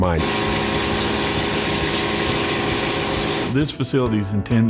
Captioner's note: machines humming